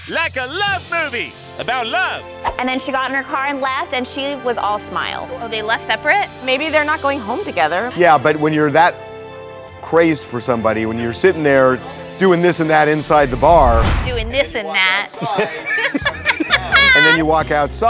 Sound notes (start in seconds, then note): 15.1 laughter